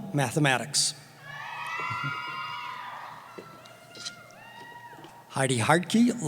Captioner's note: cheering